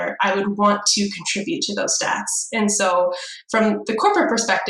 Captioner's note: none